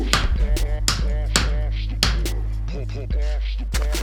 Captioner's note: drill roars; exults; hammer thuds